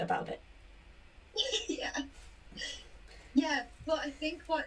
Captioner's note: laughs